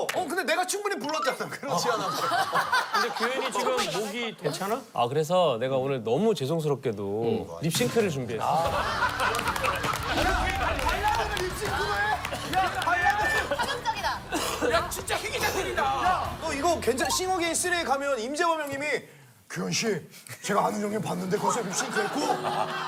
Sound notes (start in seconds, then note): 12.0 cough